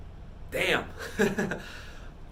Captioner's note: laughs